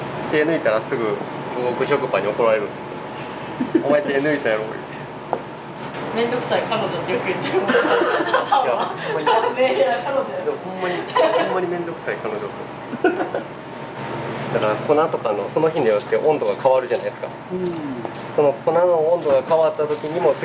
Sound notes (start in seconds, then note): 7.6 laughs; 13.0 laughs